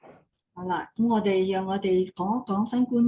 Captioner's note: non-english speech